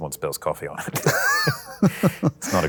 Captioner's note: laughter